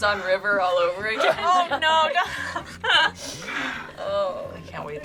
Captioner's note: laughs